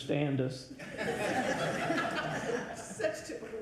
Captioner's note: audience laughs